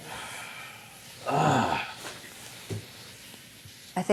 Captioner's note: groaning